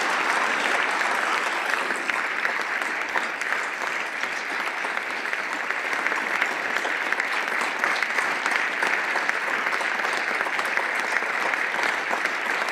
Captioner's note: applause